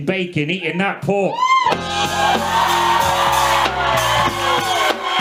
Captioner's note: audience cheers